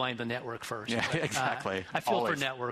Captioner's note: laughs